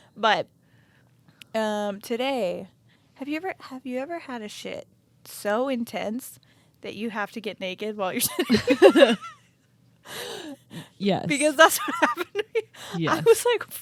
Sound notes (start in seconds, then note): 8.3 both laughing